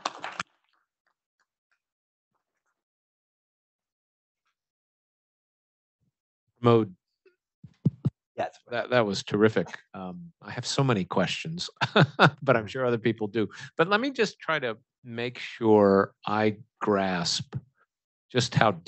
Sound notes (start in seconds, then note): 0.0 applause; 11.7 laughs